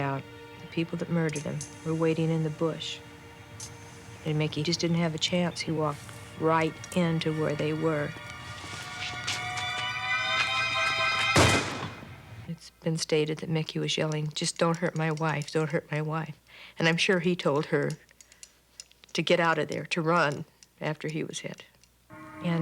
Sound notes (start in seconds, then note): 8.1 suspenseful music; 11.3 gunshot